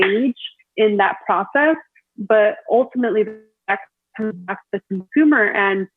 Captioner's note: audio distorts